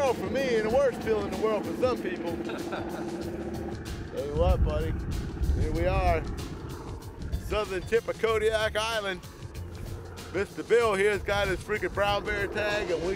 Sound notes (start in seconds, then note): 2.3 laughter